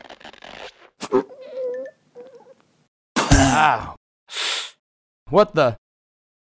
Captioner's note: gags; gags; inhale through teeth; spitting